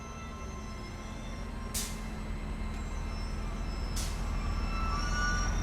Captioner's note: brakes squeaking